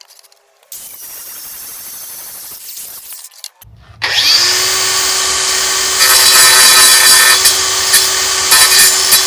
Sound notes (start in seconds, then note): 0.8 machine buzzing